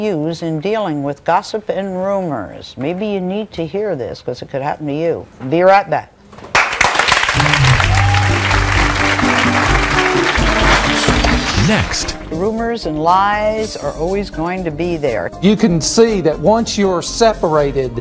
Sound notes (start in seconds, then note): 6.5 audience applauding; 7.4 bright music